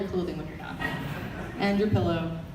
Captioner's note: audience laughter